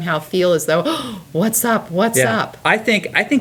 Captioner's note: gasp